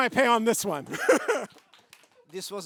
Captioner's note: laughter; applause